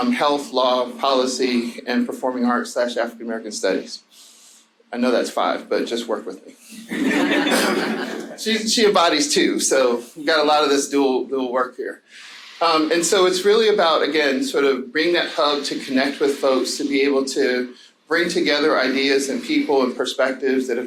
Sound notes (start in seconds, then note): 6.8 audience laughing